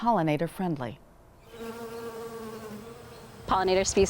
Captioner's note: bees buzzing